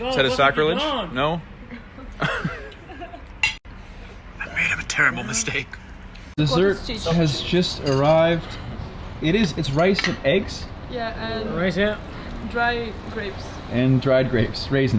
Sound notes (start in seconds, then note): 3.6 laughing